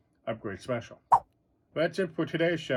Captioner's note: swipe sound